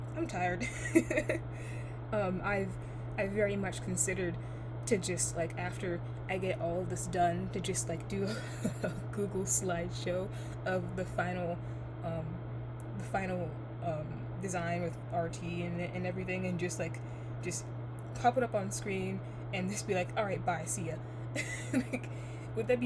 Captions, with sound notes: I'm tired (chuckles)! Um, I've-I've very much considered to just, like, after I get all of this done ,to just like do a (lightly chuckles) Google slideshow of the final, um, the final design with RT and everything and just, like, just pop it up on screen and just be like "alright, bye. see ya" (laughs). Would that be